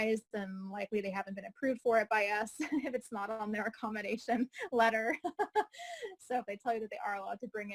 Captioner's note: laughing